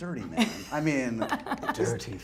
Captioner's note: laughs